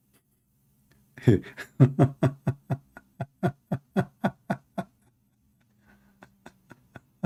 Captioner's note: Ketawa